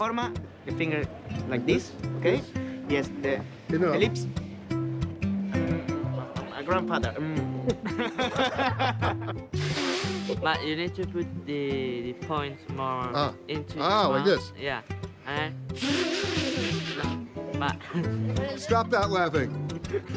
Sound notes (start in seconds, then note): 7.7 laughing; 9.5 blowing; 15.7 blowing